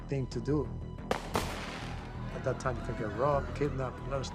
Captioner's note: gunshots